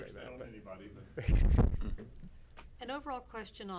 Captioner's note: laughing